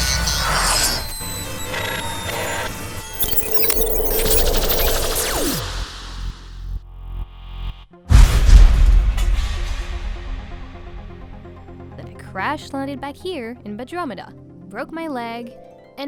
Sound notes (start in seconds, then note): 1.1 mechanical failure sounds